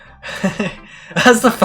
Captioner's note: nervous Inhale